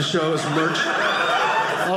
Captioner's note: audience laughing